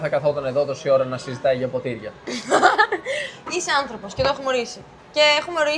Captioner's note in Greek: γέλια